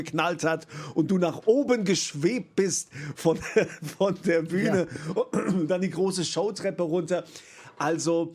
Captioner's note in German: räuspern